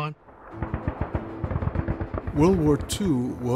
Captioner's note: machine gun firing